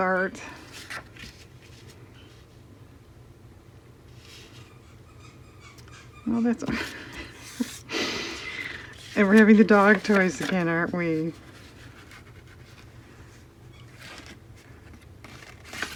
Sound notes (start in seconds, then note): 7.5 squeak toy sound